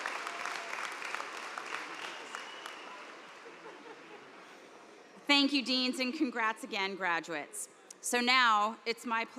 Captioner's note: cheers and applause